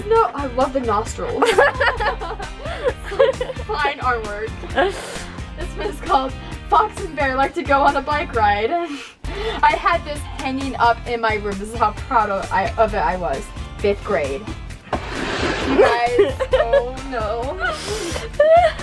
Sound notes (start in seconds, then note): 1.4 laughter